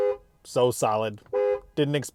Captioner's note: horn beeping